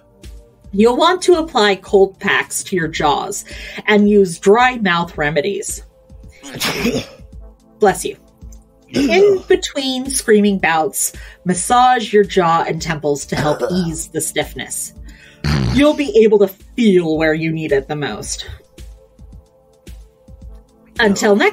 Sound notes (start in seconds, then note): 6.4 sneezes; 15.1 coughs and inhales through a congested nose